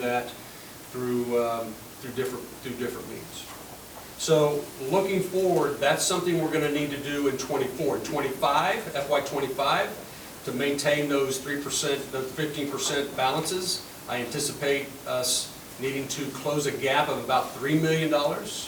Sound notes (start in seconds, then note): none